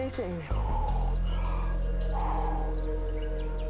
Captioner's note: exhales